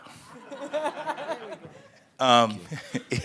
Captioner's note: attendees laugh